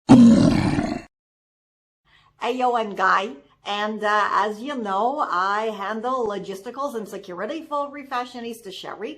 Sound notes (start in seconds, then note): 0.0 troll Growling